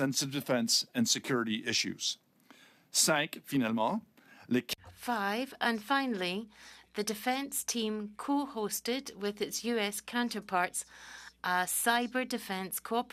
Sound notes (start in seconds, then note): 7.6 speaking French